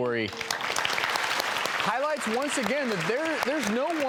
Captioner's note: applauding